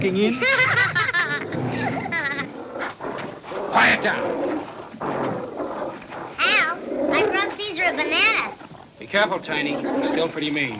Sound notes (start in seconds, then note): 0.2 both Laughing; 2.8 growling